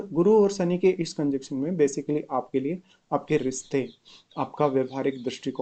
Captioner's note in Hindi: नाक से की जाने वाली आवाज़